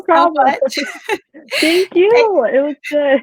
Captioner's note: both laughing